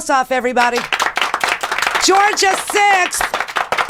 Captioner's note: applause